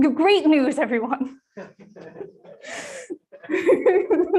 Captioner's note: audience laughter